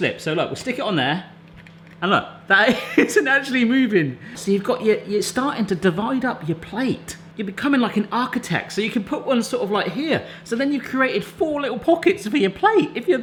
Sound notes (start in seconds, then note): 2.3 laughing